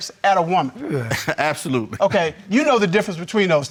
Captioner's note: chuckles